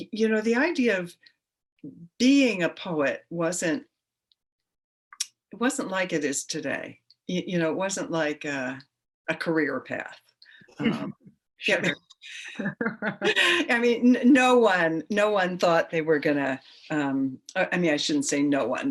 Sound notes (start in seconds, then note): 12.3 chuckles; 12.3 both laugh